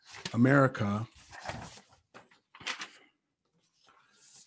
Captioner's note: paper rustles